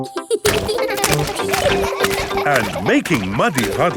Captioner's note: children laughing